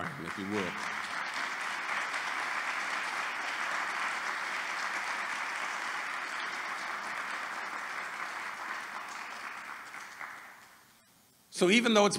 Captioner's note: applause